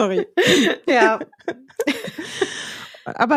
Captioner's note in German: lachen